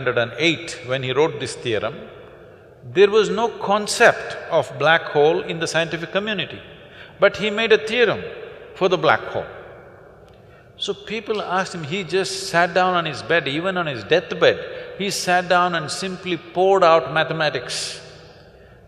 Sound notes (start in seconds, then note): none